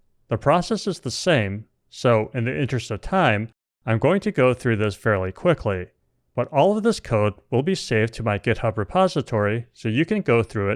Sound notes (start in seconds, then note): none